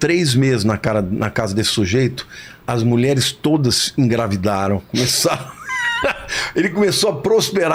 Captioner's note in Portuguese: risadas